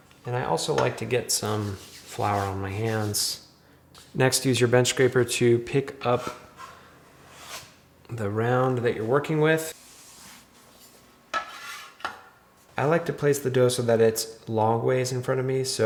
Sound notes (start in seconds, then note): 7.3 bench scraper scraping; 11.4 bench scraper clanks